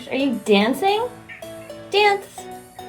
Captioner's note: meow meow